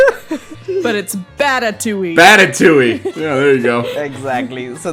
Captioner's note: laughter; laughs